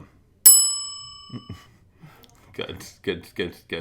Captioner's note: bell dinging